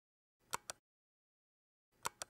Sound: click; click

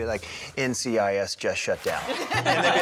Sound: laughter

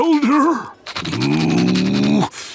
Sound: growling

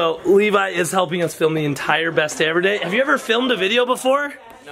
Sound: none

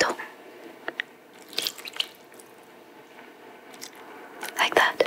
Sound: splashing

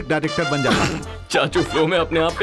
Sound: giggles

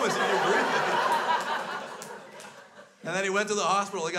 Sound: crowd laughs

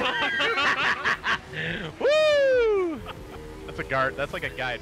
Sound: laughs

